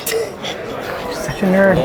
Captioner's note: laughs